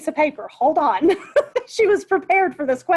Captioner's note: laughs